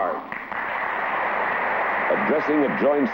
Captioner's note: applause